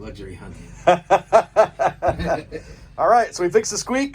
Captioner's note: laughs